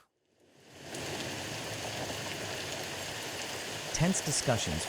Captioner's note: rain pouring